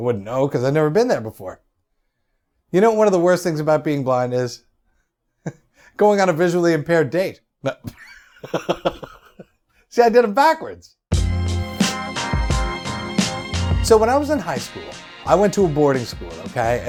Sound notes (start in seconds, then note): 8.4 laughs